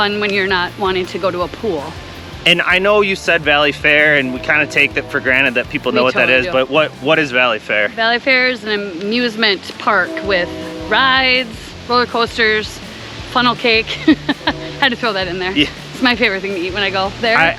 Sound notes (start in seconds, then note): 14.0 laughing